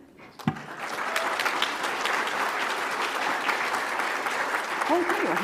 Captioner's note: audience applauds